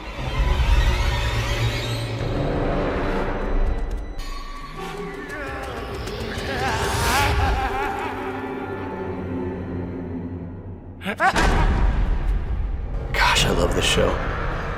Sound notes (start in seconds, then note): 0.1 dramatic ominous music; 4.7 groaning; 4.8 menacing laughter